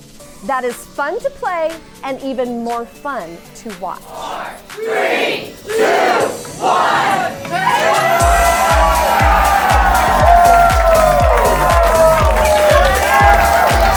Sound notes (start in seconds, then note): 5.6 crowd cheering and clapping; 11.1 upbeat music